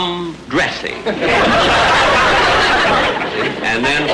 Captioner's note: audience laughter